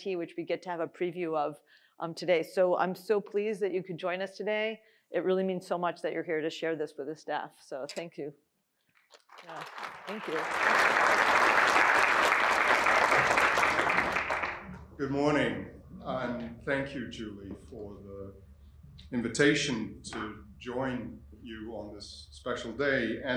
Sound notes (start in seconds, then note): 11.0 applause